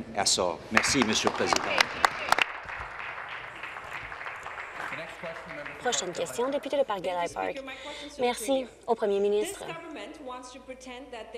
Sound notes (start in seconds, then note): 5.4 applause